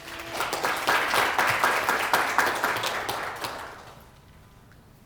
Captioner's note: applause